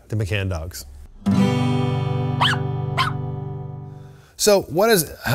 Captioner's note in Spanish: el perro ladra